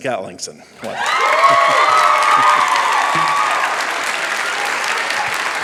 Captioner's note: cheering, applause